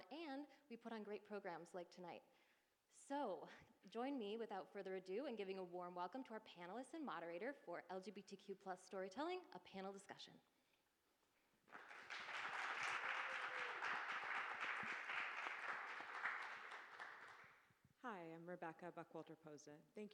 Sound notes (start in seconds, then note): 11.6 audience applauding